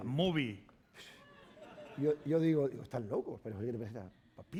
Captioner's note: speaking spanish